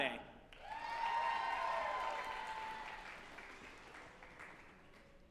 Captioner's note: group applauding and cheering